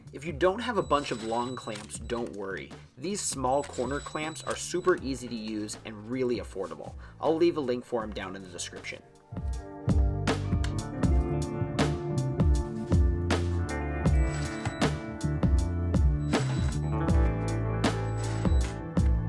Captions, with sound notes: If you don't have a bunch of long clamps don't worry. These small corner clamps are super easy to use and really affordable, I'll leave a link for 'em down in the description. (lively music) (drill whizzing)